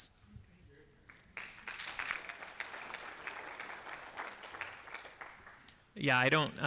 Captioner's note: applause